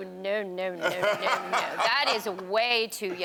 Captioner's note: Karamo laughs